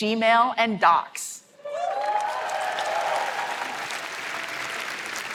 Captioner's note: applause